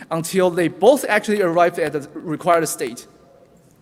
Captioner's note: none